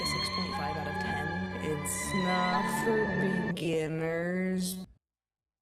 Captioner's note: slowed